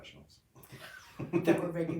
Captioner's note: laughing